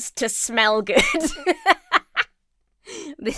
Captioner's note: laughs